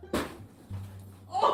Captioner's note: bang; whimsical music